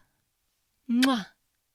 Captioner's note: blows a kiss